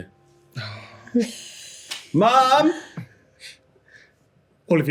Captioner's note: sighs